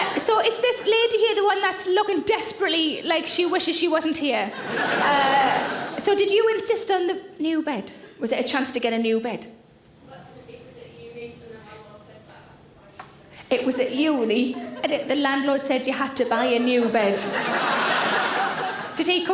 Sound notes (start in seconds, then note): 4.5 audience laughing; 16.2 audience laughing